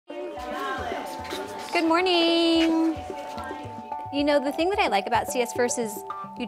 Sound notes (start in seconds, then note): 0.1 chatter